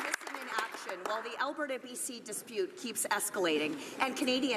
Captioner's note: some Applause